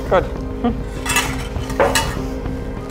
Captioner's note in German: Metallisches Klirren